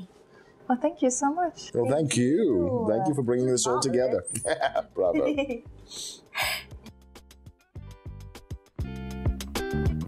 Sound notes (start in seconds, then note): 5.1 Lady Cimorene chuckling; 6.7 upbeat music